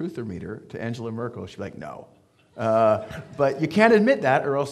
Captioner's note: audience laughing